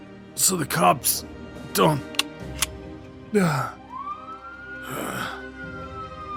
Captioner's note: he does so, wheezing hard